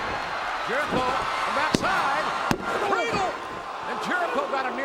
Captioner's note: Jericho thuds; hand pounding